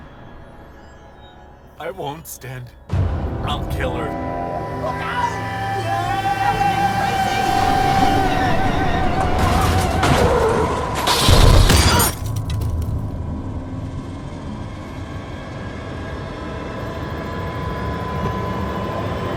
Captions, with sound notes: I won't stand! I'll kill her! - Look out! (eerie music) (tires screeching) (glass shattering) (ominous music)